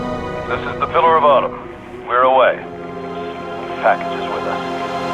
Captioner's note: radio